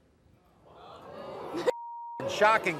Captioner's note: audience gasping